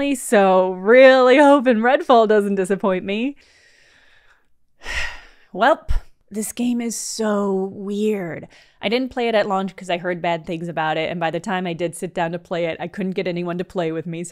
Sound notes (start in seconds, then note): 4.8 sigh